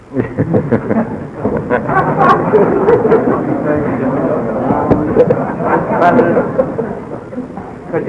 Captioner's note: laughter